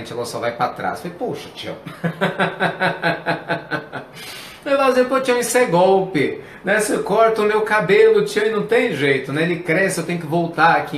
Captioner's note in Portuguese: risos